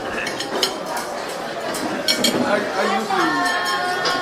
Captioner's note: all chattering